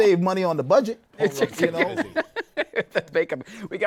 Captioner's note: laughs